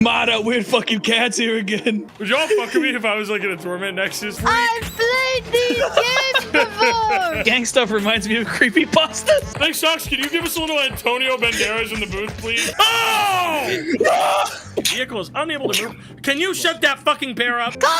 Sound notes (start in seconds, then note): 12.6 yells; 13.9 sneezes